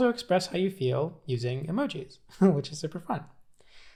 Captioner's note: laughs